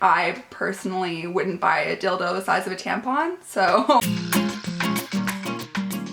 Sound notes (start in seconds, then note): 3.8 laughing; 4.0 intro music